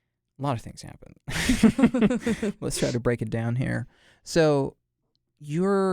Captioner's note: both chuckle